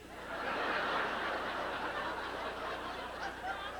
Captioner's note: laughter